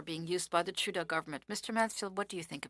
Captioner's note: speaking French